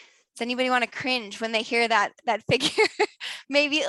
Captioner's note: laughs